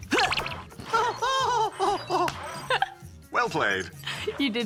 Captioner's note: whimpers